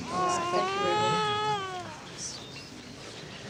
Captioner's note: Ruby cooing